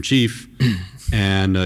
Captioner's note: clears throat